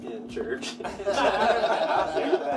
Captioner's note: laughing